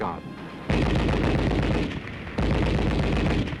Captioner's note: guns firing